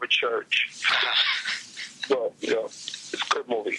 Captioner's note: Marc laughs